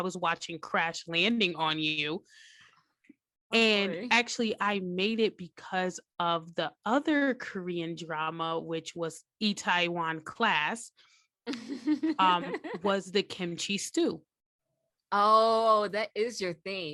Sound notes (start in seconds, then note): 11.4 giggles